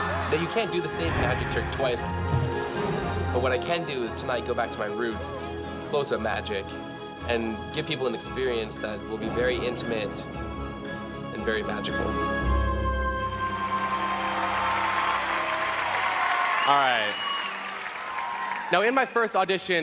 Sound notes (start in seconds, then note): 11.5 mysterious music; 13.4 cheering